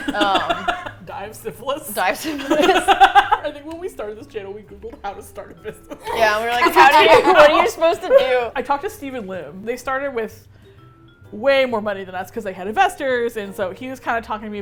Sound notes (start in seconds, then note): 0.0 laugh; 2.2 laugh; 5.9 laugh; 6.0 laughing